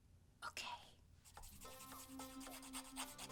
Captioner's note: whispering